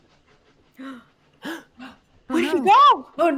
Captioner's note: audio cuts; all gasping